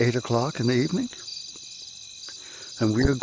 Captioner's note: crickets